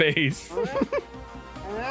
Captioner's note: laughs